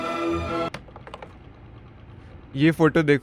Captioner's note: clicks